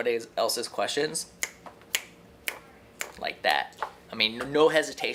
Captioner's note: snaps fingers